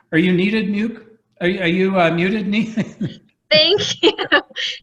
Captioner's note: laugh